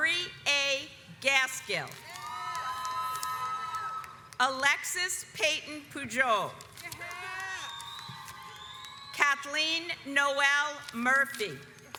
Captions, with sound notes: Lori A Gaskill (audience cheers) Alexis Peyton Pujol (audience applauds) Kathleen Noel Murphy.